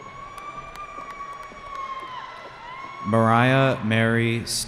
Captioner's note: cheering